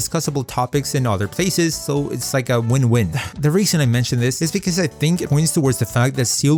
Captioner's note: sigh